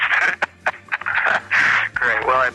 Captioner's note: both laughing